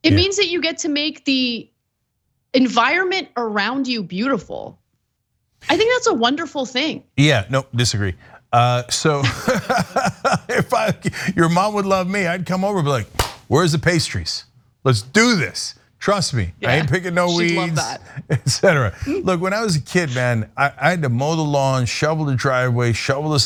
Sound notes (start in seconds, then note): 9.0 laugh